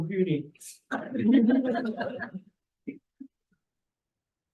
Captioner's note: group laughs